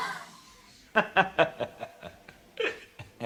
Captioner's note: laughing